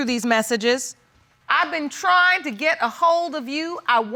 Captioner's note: judge lake reading aloud